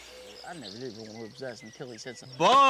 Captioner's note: people chattering